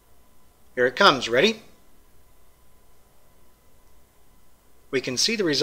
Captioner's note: pause; pause